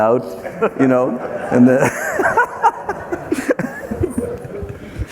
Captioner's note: everyone laughing